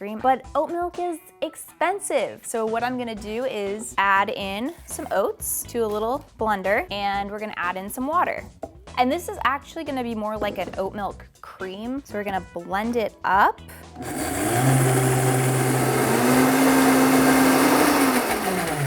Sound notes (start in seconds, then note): 13.9 blender whirring